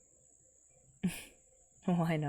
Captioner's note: chuckles